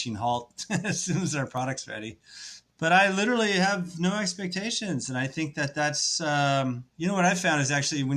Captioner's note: laughs